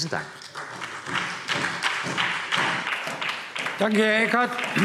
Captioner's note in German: Beifall SPD